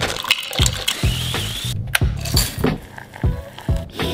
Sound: food processor whizzing

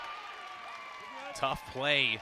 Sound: cheering

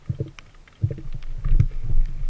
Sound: boat sounds

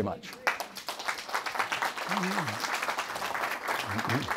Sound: audience applauds

